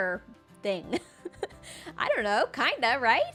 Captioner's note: laughs